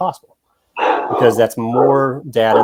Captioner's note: dog barking